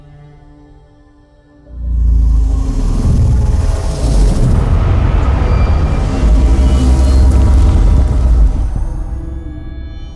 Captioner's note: Sound of Dyson digital motor V2